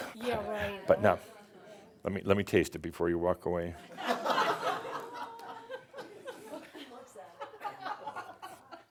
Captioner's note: a few chuckles as he sips it